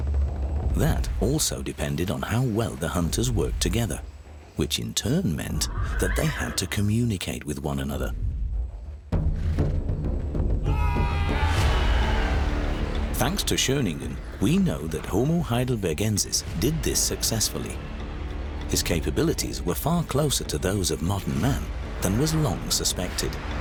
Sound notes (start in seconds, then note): 10.6 hunters shouting